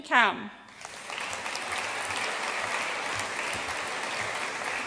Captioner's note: audience applauding